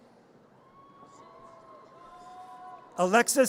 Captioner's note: audience cheers